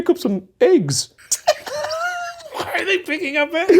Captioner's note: both laughs